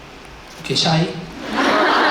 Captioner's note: in English; laughs